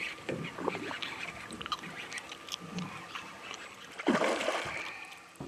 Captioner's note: fish splashing; rod whipping; reel cranking; fish splashing